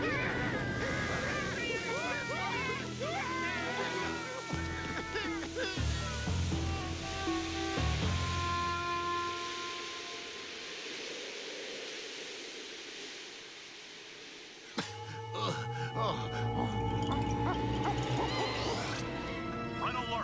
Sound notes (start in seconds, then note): 0.0 screaming; 14.8 moaning; 15.3 grunting